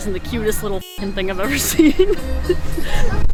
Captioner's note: laughs